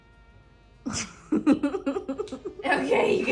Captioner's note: giggles